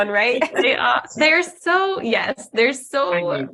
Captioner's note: laughter